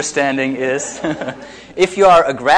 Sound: audience laughs

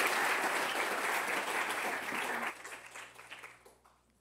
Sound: applause

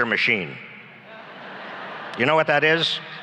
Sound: laughs

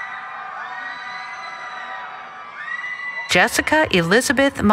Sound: cheering

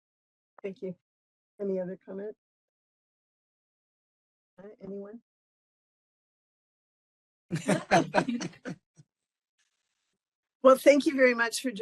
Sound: laughing

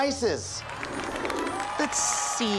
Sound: studio audience cheering and applauding

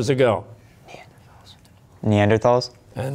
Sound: whispering

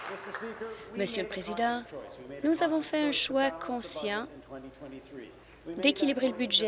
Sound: applause

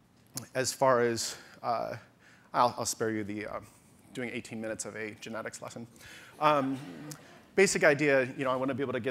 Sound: audience laughter

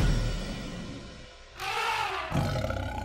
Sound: elephant trumpets; tiger growls

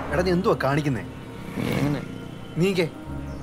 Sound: Jessy mumbling

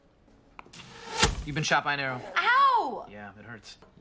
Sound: arrow shooting noise

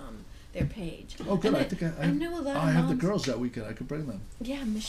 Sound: voiceover; voiceover

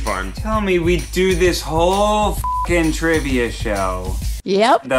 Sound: beep

